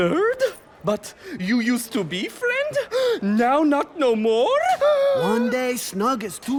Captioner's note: shocked gasp; gasps